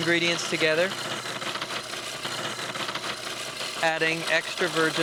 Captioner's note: blender blending